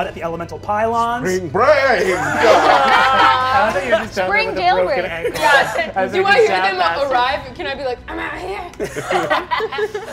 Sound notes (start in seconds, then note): 2.1 all laugh